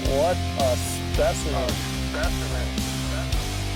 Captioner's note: voiceover; rock music